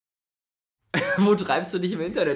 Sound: laughs

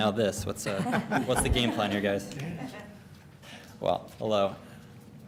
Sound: laughter

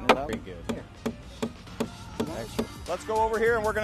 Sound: hammering

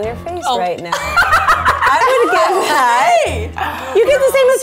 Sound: laughs

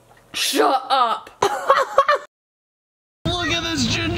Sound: laughs

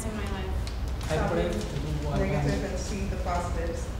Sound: talking

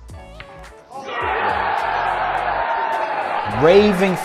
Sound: crowd cheering

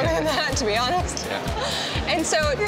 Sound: laughs

